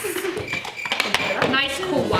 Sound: audience clapping; crickets chirping

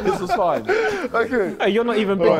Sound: Sidemen laughing

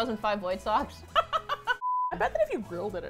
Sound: laughs

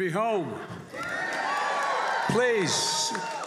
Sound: applause

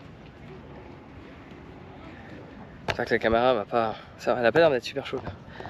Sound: footsteps; speaking in foreign language

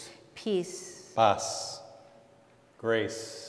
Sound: speaking in Spanish

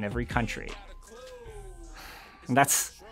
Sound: laughs

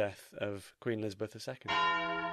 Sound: bell tolls

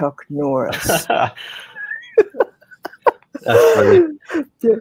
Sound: chuckling together

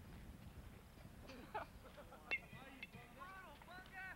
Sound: laughter; distant chatter

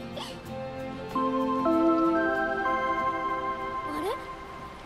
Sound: curfew Alarm

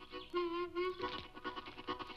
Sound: money rustles

